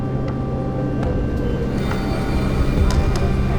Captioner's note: subway train noises